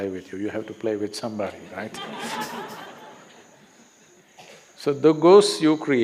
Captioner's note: laughter